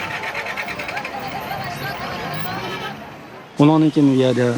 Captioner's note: car engine starting; man shouting in foreign language